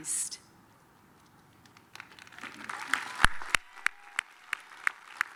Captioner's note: applause